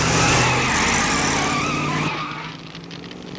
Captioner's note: tires squealing